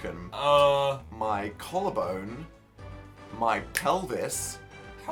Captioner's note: snaps